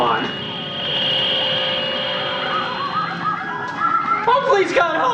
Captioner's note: electronic noise